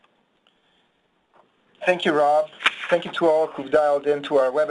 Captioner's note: pages turning